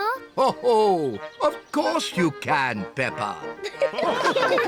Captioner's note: chuckles; all laugh